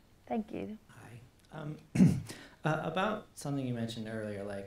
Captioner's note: clears throat